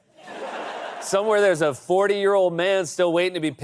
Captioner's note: laughter